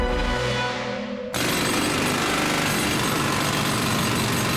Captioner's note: jackhammering